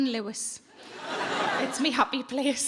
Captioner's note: audience laughing